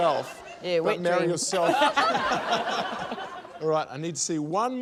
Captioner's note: laughter